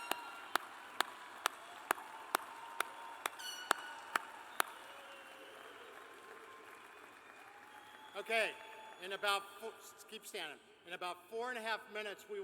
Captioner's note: cheers and applause